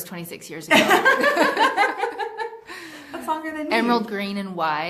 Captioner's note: laughing